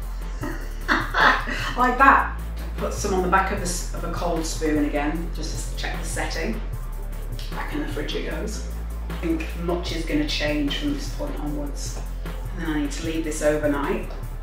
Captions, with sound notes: [LAUGHS] Like that! Put some on the back of a cold spoon again, just to check the setting Back in the fridge it goes I don’t think much is going to change from this point onwards And then I need to leave this overnight,